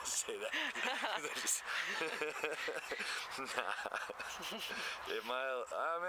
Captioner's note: laughter